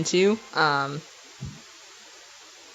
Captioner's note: thud